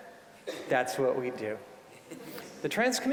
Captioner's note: audience chuckling